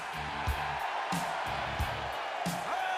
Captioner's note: all cheering